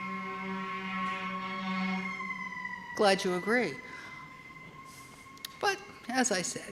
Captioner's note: distant sirens blaring